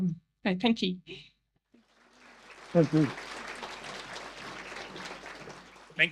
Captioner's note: audience applause